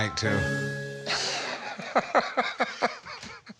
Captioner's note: laughs